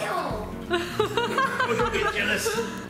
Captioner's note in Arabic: ضحك